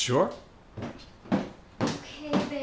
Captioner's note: footsteps approaching